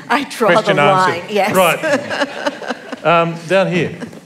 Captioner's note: laughter